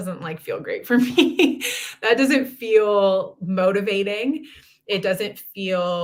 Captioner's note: laughter